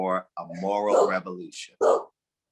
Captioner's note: dog barking